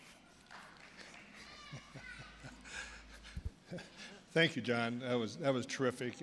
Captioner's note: chuckling